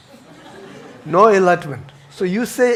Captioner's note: audience chuckles